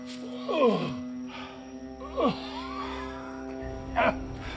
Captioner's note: Undertaker whimpering